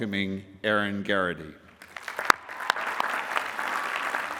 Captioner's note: applause